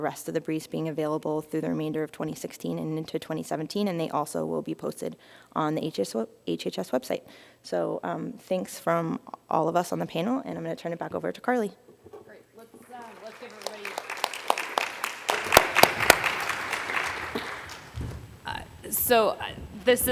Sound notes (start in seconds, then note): 12.8 applause